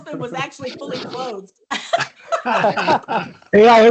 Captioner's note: laughter